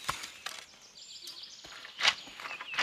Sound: birds chirping

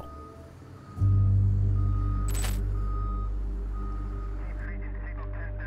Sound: alarm beeping

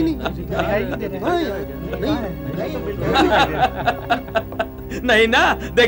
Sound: laughs

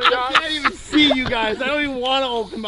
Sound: laughter

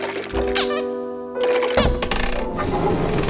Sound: honk

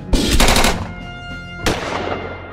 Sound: gun Shots

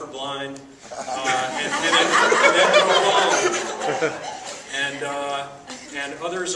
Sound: audience laughs loudly

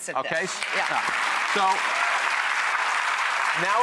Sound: applause

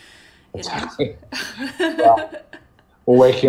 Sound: laughs

